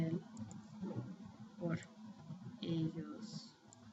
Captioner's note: spanish